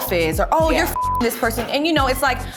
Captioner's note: beep